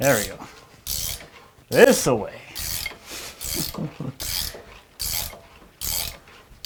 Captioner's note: chuckles